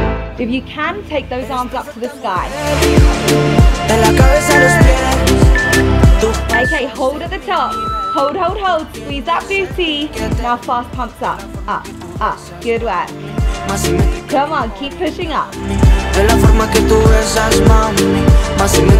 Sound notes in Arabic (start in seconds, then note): 4.2 صوت المؤقت